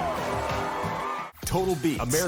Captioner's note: crowd continues cheering